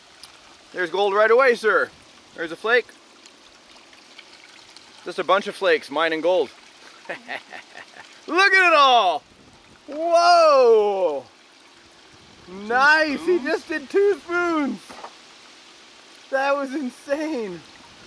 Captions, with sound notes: There's gold right away sir. There's a flake. There's a bunch of flakes, mine and gold. (crew member laughs) Look at it all. Whoa. Nice. He just did two spoons. That was insane.